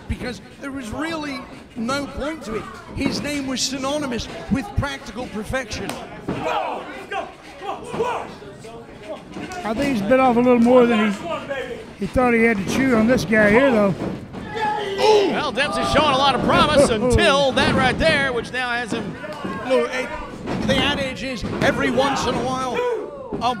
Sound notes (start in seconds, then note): 6.8 shouting